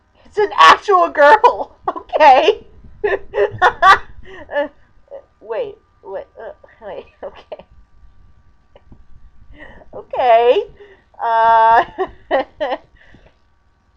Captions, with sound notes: It's an ACTUAL GIRL! Okay! (laughing) Wait. (stammering) Okay. Okay, uhhh... (laughing)